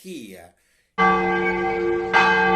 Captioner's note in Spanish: sonido de campanas